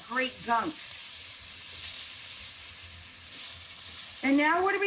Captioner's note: pan sizzling